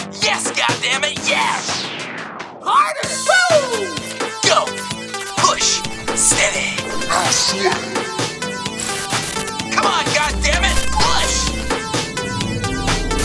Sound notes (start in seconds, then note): 7.0 static buzzes; 10.9 static buzzes; 11.9 upbeat music; 13.0 static buzzes